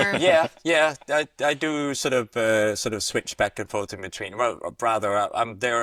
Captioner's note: laughter